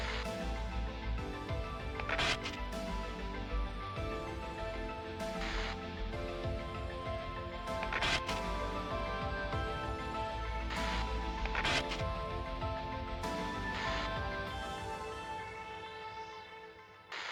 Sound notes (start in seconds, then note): 0.1 radio static hissing; 3.5 energetic suspenseful music continues; 5.2 radio static hissing; 10.7 radio static hissing; 13.8 radio static hissing